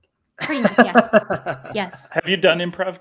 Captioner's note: laughs